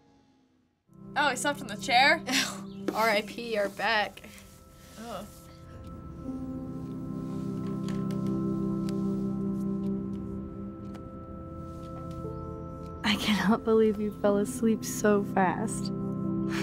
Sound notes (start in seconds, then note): 2.3 chuckles